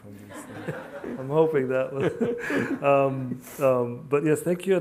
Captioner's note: laughs